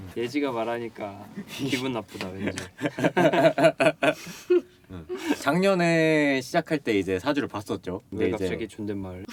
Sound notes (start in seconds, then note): 2.4 laughter